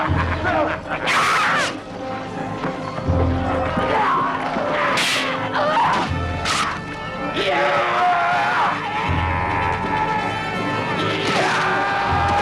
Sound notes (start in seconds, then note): 1.0 child shouts; 3.8 raider shouts; 4.9 swords clanging; 9.4 raider yelling